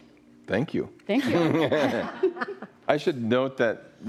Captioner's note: laughs